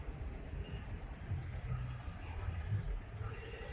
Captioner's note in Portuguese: Barulho de carro